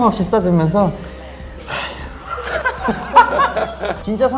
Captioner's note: sigh